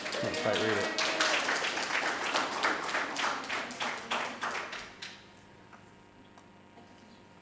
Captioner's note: cheering; audience applauding